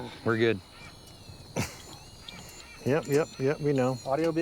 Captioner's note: steady beeping